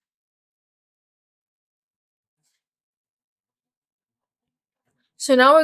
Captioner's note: silence